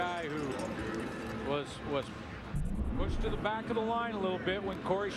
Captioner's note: crowd din